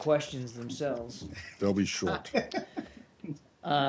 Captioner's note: laughter